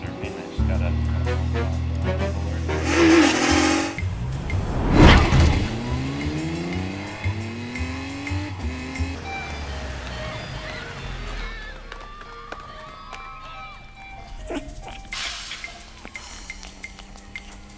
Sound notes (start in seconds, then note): 9.1 sounds of crazed children hungry for ice cream